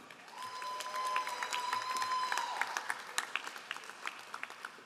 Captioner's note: all applauding